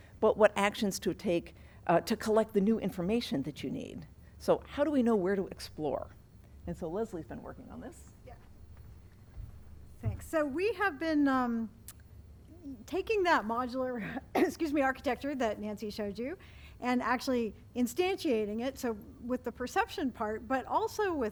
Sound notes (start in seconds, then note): 14.1 coughs